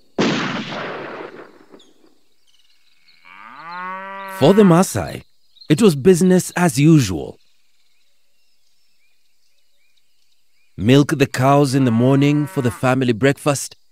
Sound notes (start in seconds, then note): 0.1 rifle fires; 3.0 cattle lows